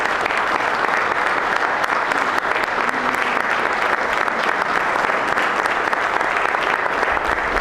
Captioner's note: applause